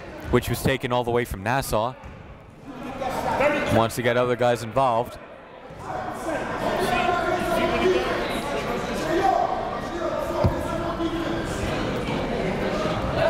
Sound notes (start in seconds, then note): 5.8 coaches yelling; 6.2 crowd talking